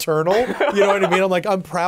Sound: laughing

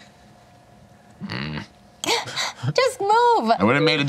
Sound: grunts

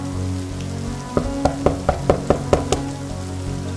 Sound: knocking

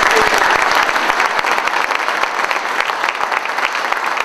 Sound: applause

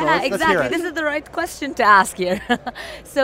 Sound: laughs

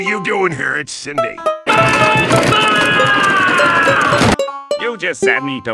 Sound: yelling

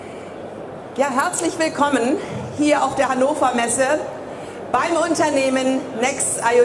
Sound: speaker speaking in foreign language

